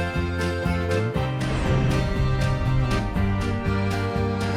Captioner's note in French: none